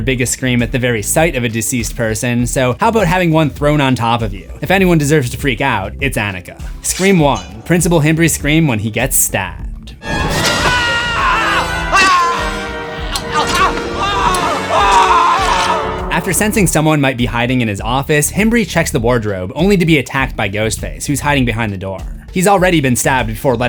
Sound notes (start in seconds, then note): 10.0 screams